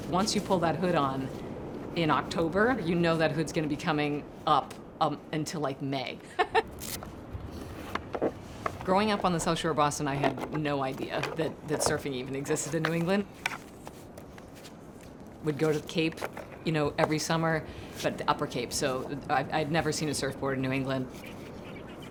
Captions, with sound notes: Once you pull that hood on in October, you know that hood's gonna be coming up until like May. (laughs) (Velcro scratching) Growing up on the South Shore of Boston, I had no idea that surfing even existed in New England. We'd go to the Cape every summer, but the upper Cape, so I had never seen a surfboard in New England.